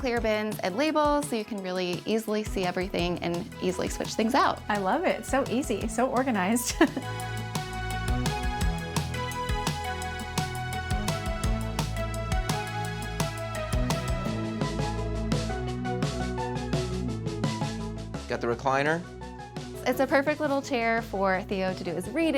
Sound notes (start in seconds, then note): 6.4 happy music; 6.6 chuckles